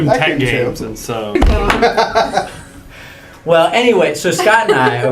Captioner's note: laugh